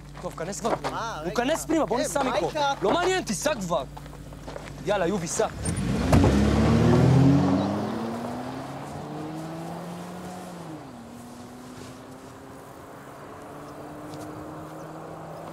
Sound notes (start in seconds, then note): 5.8 car engine roars